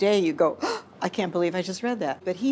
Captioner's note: gasps